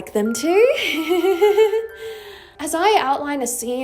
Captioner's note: nervous laughter